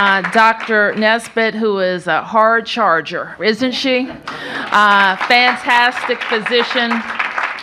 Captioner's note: applause